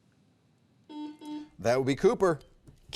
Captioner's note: button beeping